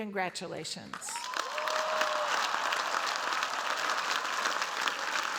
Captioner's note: cheers, applause